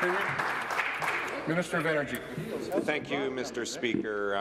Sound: applause

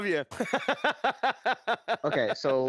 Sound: laughing

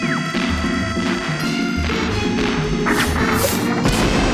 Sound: cannons blow

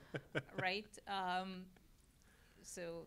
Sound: laugh

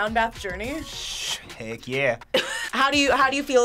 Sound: laughs

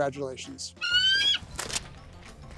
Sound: eagle Screech

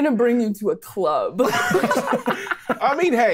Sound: players laughing

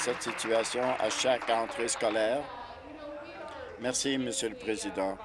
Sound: applause

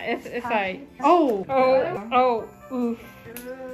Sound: concerned sounds

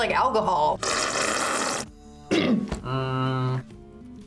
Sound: slurps; clears throat

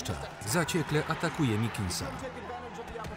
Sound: audience cheering

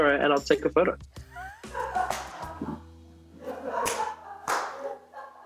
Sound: laughter

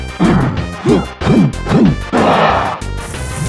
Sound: grunt gibberish

